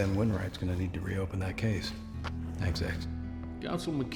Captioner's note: tapping